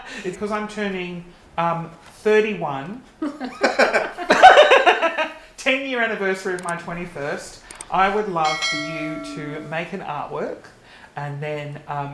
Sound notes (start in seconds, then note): 0.0 laughing; 3.2 all laughing; 8.1 bell rings